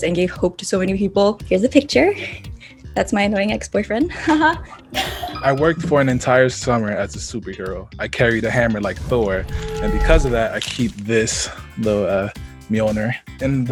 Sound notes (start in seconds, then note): 5.0 laughs